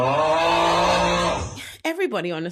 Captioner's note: crowd groans